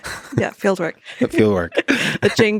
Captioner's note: chuckles